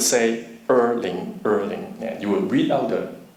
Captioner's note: speaking foreign language